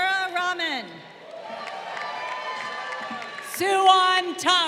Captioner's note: crowd cheering